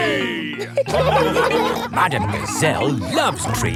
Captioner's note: laughing